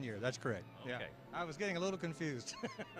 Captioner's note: laughter